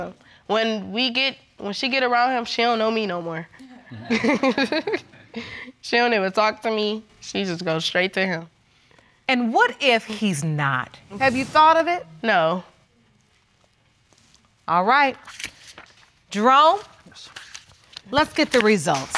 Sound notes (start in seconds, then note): 3.7 laughing